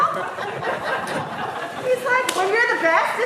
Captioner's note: audience laughing